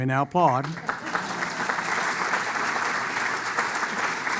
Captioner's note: applause